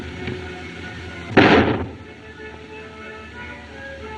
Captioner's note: gunshot